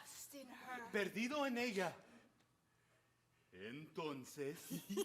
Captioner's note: speaking Spanish